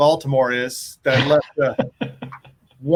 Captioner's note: laughs